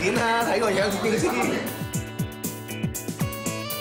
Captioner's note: laughs